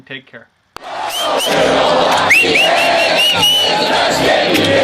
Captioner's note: crowd